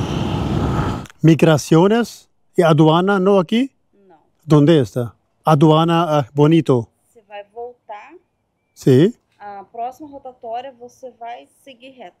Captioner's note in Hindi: स्पेनिश में बोलना